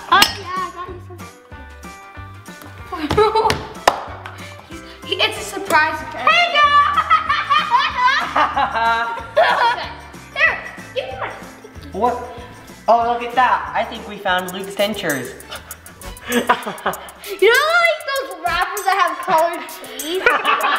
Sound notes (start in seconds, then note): 3.5 pop; 6.5 laughs; 15.4 laughs; 20.1 laughter